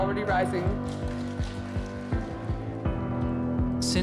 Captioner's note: applause